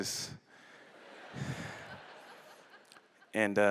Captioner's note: laughter